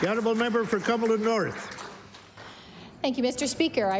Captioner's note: applause